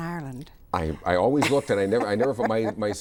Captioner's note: laughs